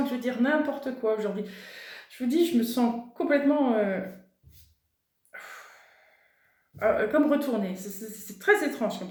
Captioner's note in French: soupir